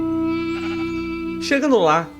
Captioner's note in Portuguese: ovelha berra novamente